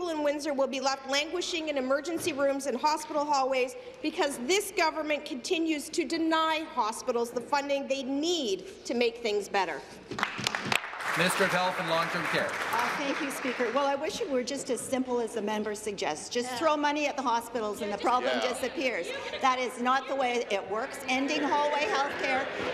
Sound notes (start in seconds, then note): 12.6 applause